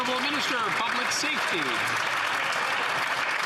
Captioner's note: some Applause